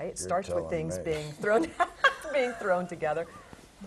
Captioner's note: laugh